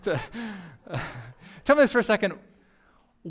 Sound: pastor: Laughter

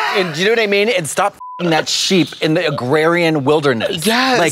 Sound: beep

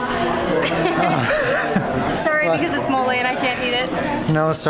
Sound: laughter

